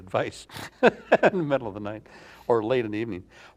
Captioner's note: chuckles